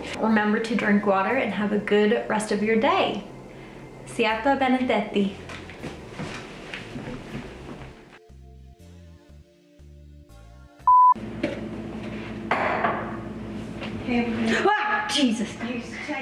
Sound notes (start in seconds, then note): 10.8 high-pitched tone beeping; 12.5 dishes clattering; 14.4 yelping